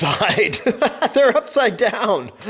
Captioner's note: laughs